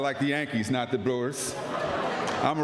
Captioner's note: laughter